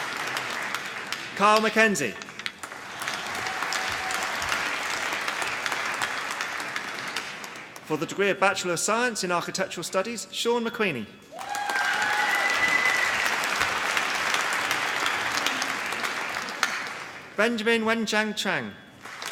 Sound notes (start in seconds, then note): 0.0 applause; 2.6 applause; 11.3 applause